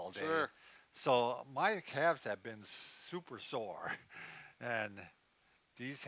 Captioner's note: laughs